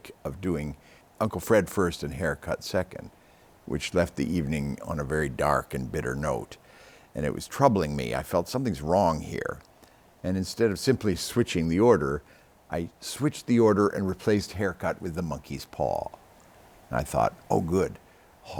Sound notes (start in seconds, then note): none